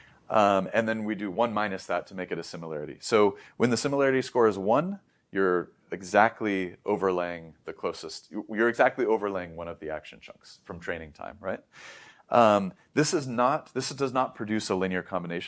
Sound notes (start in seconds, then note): 11.7 inhales